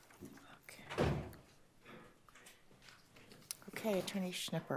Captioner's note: door thuds